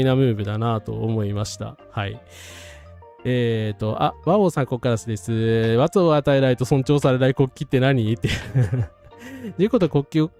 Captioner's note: laughs